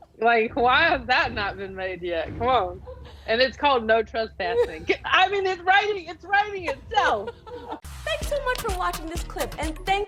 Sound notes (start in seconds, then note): 6.7 both laughing